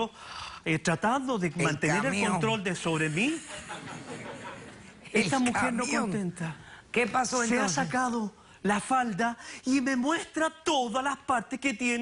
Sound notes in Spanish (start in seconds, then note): 3.3 Risas